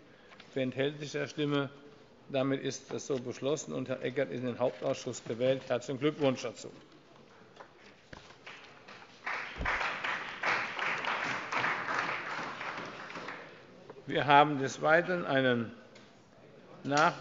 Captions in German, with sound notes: – Wer enthält sich der Stimme? – Dann ist das so beschlossen, und Herr Eckert ist in den Hauptausschuss gewählt. Herzlichen Glückwunsch. (Beifall bei der SPD) Wir kommen zu Tagesordnungspunkt 4: